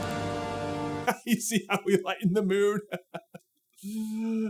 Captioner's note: chuckles; laughing